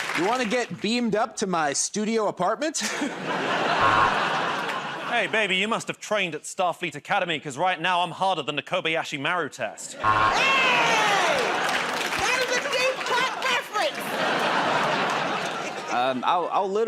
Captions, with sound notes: -You want to get beamed up to my studio apartment? [ Laughter ] [ Buzzer ] -Hey, baby, you must've trained at Starfleet Academy because, right now, I'm harder than the Kobayashi Maru test. [ Laughter and applause ] [ Buzzer ] -Aye! That is a deep cut reference. [ Laughter ]